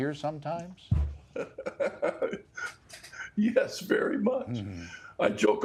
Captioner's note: chuckles